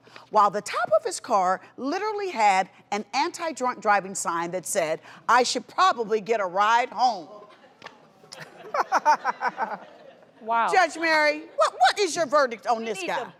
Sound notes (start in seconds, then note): 7.4 laughs